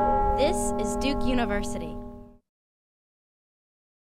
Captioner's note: bell chiming; voiceover